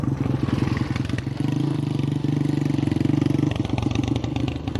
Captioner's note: Honda XR200R braps downhill